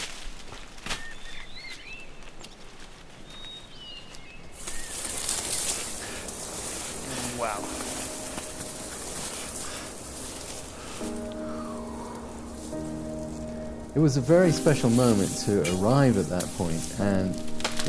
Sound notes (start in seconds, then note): 1.8 birds singing